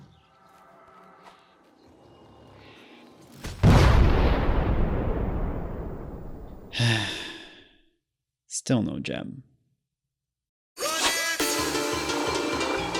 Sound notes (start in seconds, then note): 6.7 long drawn out sigh